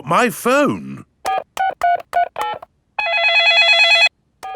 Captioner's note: dialing; cell phone ringing